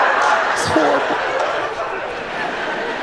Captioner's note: whispers; laughter